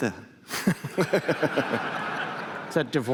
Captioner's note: laughter